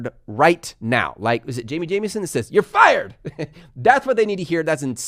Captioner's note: laughs